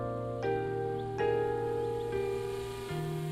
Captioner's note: toy airplane buzzing